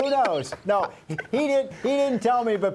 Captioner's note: laughter